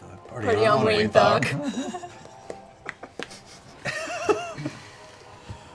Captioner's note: laughs; laughter